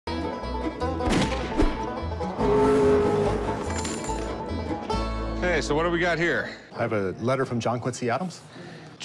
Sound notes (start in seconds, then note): 0.1 banjo music playing; 1.0 gunshot; 2.4 train horn sounding; 3.6 coins jingling